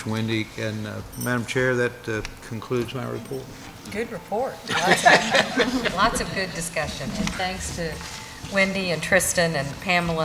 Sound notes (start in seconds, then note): 4.7 laughter